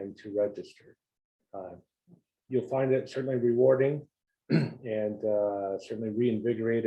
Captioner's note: cough